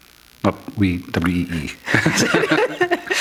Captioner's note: laughter